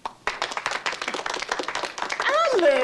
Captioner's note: people applauding